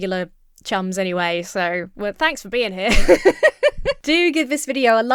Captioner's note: laughs